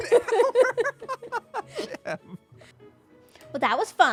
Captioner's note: laughter